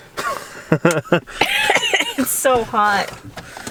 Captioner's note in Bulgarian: смее се